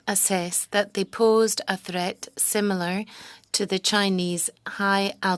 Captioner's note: speaking French